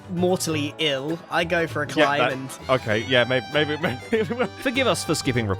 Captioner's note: stammers